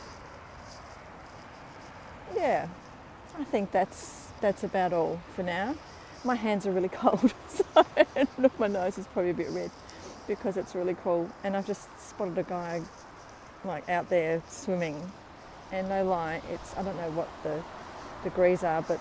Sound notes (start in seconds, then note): 7.2 laughing